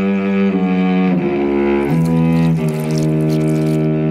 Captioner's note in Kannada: none